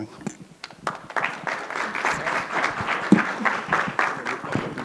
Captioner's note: audience clapping